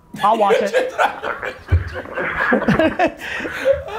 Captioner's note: Cha laughs